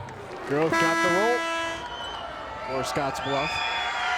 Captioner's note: buzzer rings